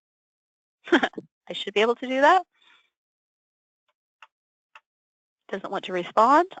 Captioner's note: giggles